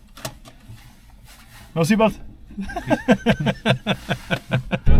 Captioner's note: laughter